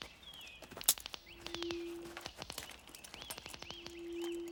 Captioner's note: branches cracking